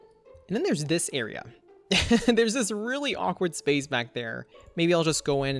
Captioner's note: laughs